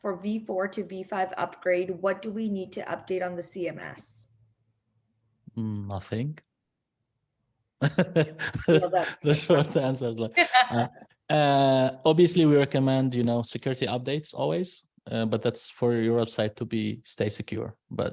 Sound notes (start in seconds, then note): 7.8 laughs; 11.1 laughs